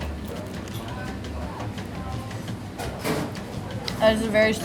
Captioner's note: diners chattering